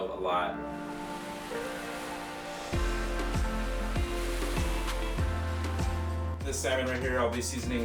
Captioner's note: light upbeat music; waves softly crashing